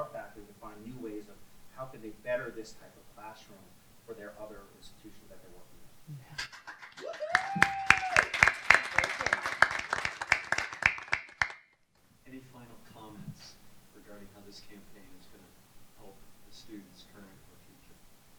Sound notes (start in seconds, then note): 6.4 applause; 6.8 cheers